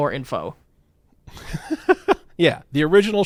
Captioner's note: laughing